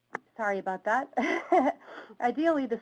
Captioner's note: laughs